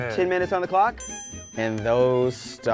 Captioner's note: ping